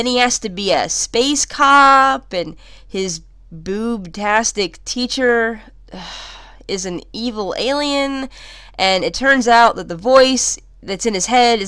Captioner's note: sigh